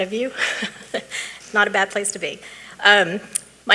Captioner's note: chuckling